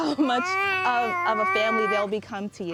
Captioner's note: baby babbling